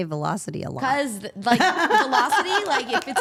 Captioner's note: laughs